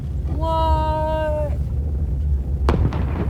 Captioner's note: explosion